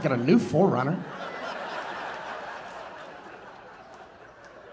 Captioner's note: audience laughing